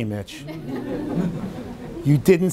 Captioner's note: everyone laughing